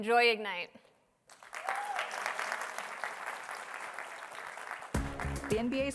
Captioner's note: applause